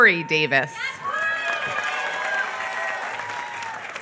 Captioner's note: applause